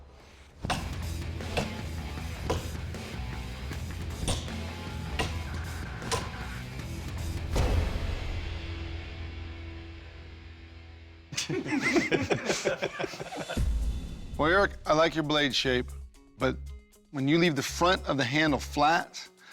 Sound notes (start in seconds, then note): 0.3 heavy rock music playing; 11.3 laughter